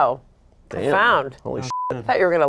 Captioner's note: beep